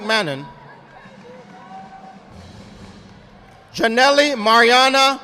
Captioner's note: audience applauding